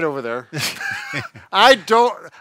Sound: laughs

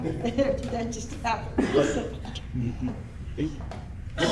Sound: panelists laugh

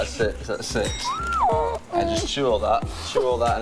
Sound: bell dings

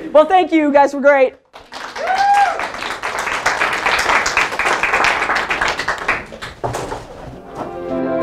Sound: applause

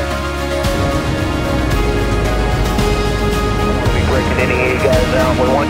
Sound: muffled speaking over radio; dramatic orchestral music; muffled speaking over radio

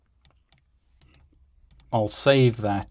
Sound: mouse clicking

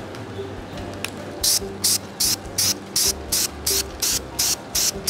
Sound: spray paint hissing

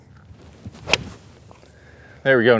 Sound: club swings

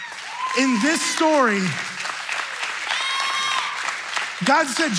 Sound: audience cheering

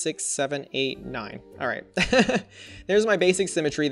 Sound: laughs

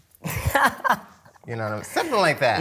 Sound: laughs

